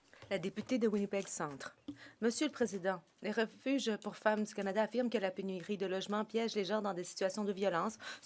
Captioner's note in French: voix de l'interprète